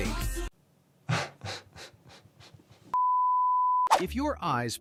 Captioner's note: laughing